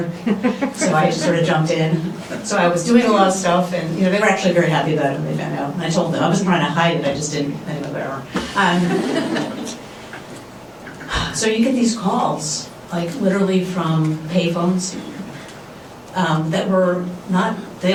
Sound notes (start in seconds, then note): 0.2 laughs; 8.7 laughter